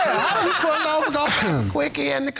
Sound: all laughing

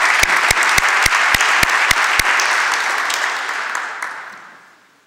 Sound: applause

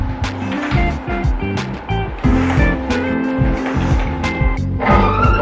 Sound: curtain clicking

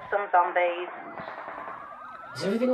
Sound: sirens and shots over phone

